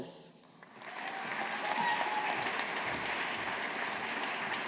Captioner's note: audience applauding